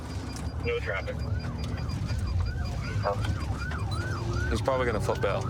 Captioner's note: sirens wailing